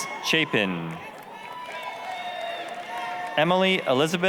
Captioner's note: applause, cheering